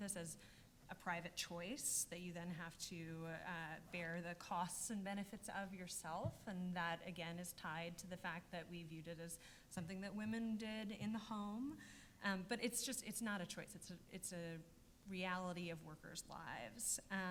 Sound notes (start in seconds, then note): none